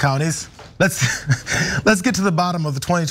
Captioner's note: laugh